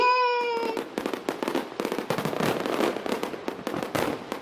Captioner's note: fireworks blasting